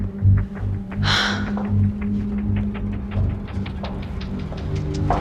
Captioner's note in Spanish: Isabel exhala